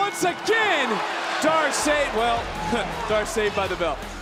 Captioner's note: bell ringing